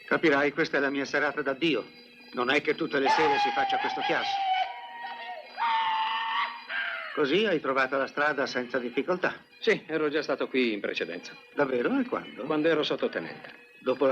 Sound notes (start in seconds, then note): 6.2 hollering